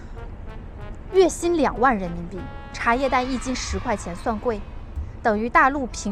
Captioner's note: Taiwanese